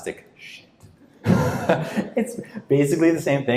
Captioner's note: laughing